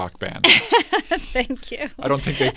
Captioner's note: laughs